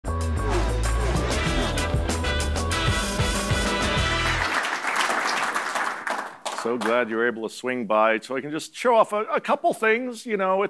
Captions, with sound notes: (sassy brass music) (crowd applauding) - So glad you were able to swing by so I can just show off a couple things.